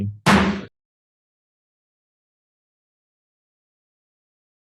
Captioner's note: gavel banging